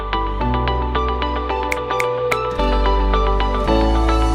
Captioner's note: snapping fingers